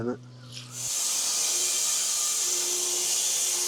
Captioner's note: saw buzzing